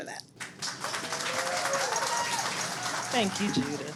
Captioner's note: audience claps